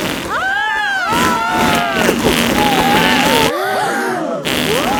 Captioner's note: both screaming; crowd gasps